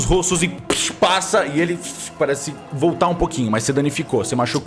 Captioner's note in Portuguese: fush